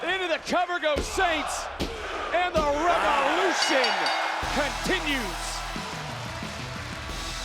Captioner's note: bell ringing